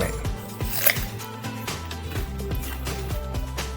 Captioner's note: crunching